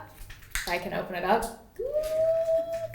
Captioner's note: squeals